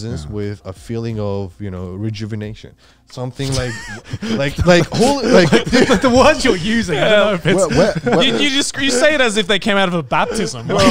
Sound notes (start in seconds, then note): 3.4 all laughing